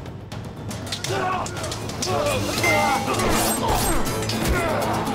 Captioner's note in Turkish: Kılıç sesleri